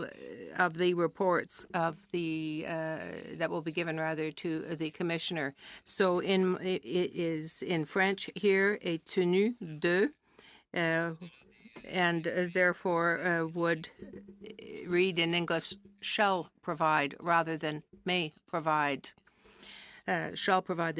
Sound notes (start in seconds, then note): 15.7 speaking French